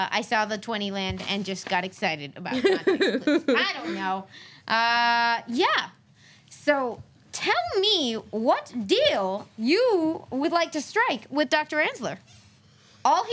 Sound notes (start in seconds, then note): 2.6 laughs